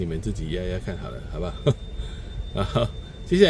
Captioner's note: laughs